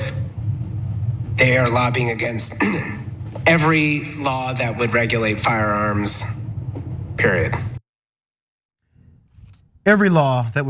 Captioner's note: cough